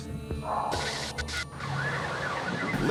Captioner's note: sirens wailing